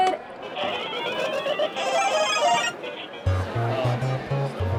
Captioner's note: power up sound effect; upbeat music